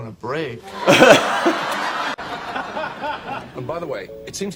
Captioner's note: audience laughing